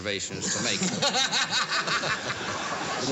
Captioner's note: laughter